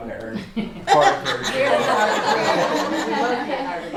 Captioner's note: laughter